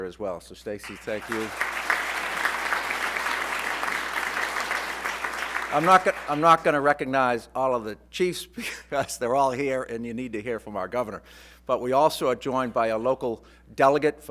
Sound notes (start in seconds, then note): 0.8 applause